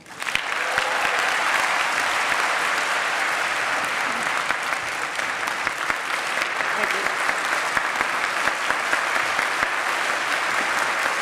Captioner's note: applause